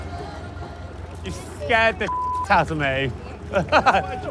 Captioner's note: beep